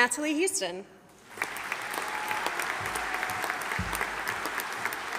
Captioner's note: audience applauding